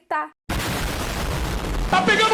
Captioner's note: explosion